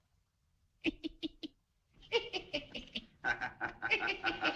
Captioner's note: لويس يضحك; جمهور يضحك